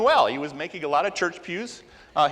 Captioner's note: none